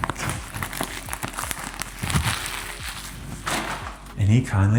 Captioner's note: plastic rustling